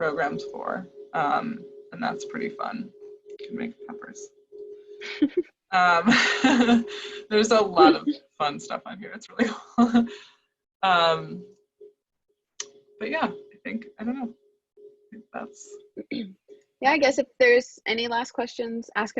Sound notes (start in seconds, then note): 5.8 laughs; 10.1 laughs